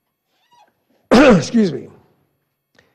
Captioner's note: clears throat